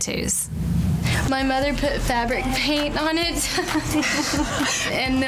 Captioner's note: laughs